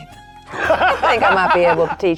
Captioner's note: players laughing